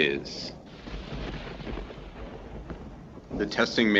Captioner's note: thunder rumbling